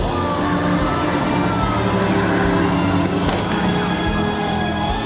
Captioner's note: boat engine revving; guns popping